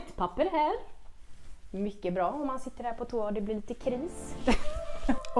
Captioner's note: haha